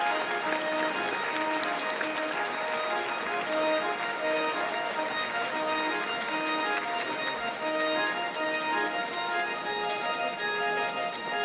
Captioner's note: applause